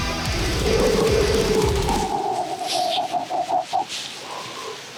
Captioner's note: heavy breaths